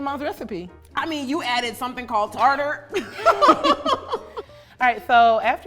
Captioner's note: laughs